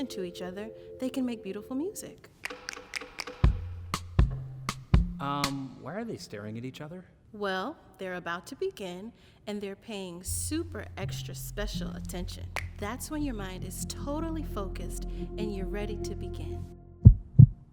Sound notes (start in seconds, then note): 2.9 violin bow clicks; 17.0 heartbeat thuds